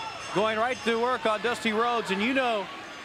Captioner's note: bell ringing